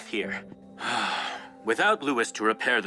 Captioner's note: Jonathon gasps